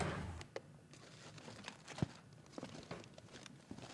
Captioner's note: freezer opening; ice scraping